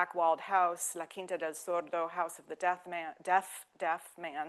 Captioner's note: speaking French